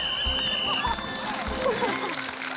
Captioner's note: blows whistle